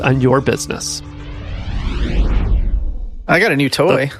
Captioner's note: electronic whooshing